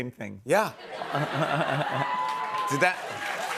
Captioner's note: chuckles; cheers and applause